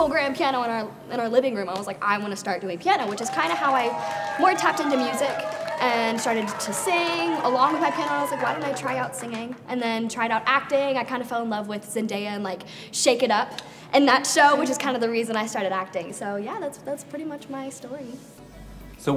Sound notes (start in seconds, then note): 2.6 audience cheers